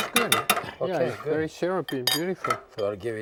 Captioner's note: spoon clinking